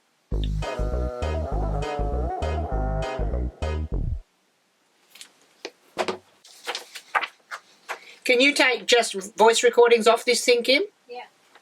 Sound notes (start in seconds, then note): 6.4 pages turning